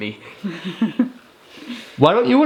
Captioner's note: laughs